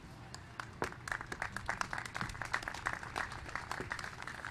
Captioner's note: applause